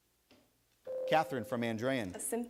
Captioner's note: bell rings